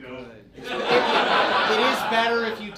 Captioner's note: audience laughs